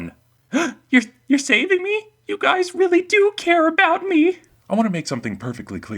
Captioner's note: gasp